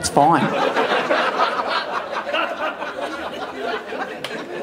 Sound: audience laughing

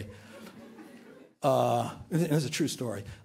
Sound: laughter

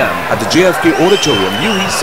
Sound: wild applause and cheering for 22 seconds

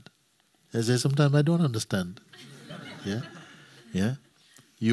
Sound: laughter

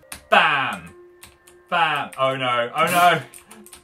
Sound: snorts

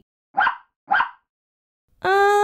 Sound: bark! Bark!

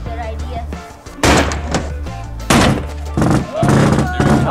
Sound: metal clanging

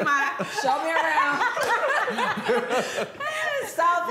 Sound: laughter

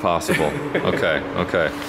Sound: laughs

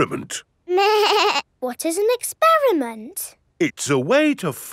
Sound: snorts; bleating

